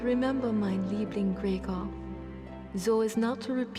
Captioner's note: speaks foreign language